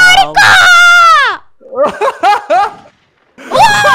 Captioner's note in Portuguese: rindo